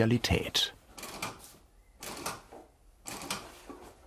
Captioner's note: cautious rattling of the sewing machine